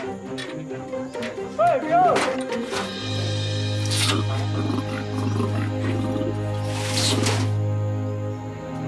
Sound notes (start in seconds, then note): 1.6 man yelling; 3.1 orangutan grunting